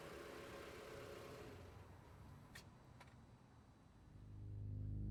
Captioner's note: car running, stops